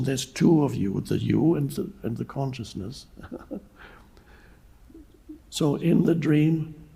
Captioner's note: chuckles